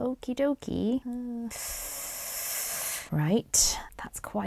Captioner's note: sucks air through teeth